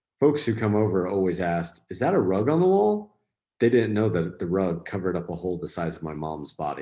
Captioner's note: none